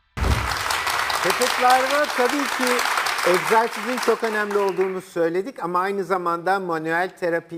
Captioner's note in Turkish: alkış